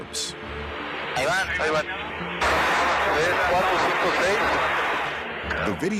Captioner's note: pilot speaking Spanish